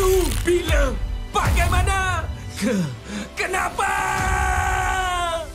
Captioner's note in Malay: berteriak